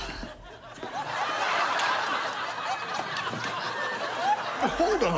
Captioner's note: studio audience laughs